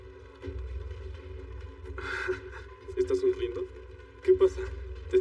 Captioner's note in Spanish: Ríe